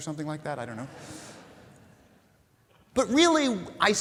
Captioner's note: audience laughing